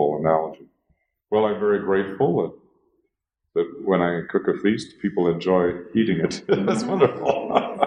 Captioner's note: laughs